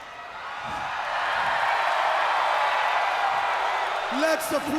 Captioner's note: crowd cheering